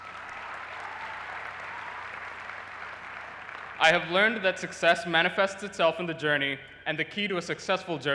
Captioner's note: applause